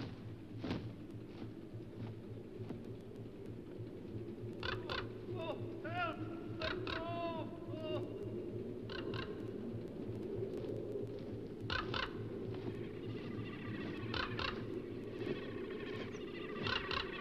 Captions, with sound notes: (crow crackles) Oh, oh, help! Let go, oh! (crow crackles) (wings beating) (hummingbird hums)